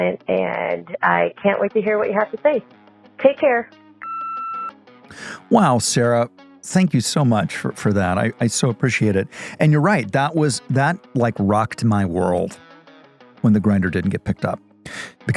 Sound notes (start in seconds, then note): 4.0 phone line beeps